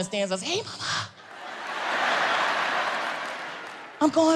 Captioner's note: audience laughs